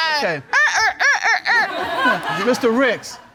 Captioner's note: vocalizes mockingly